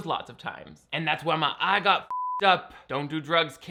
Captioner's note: beep